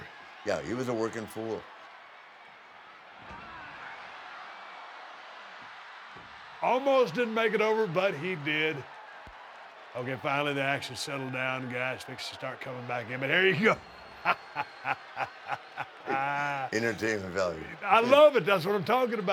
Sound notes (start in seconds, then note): 14.2 laugh